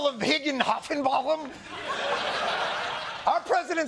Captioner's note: laughter